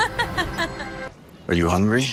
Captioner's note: laughter